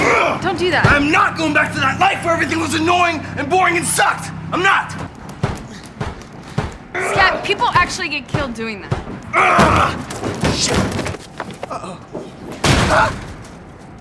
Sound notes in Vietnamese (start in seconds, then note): 5.0 đập thùm thụp; 9.3 gào lên